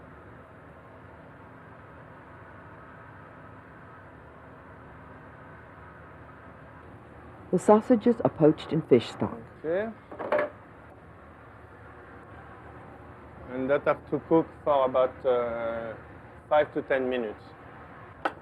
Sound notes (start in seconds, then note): 7.7 voiceover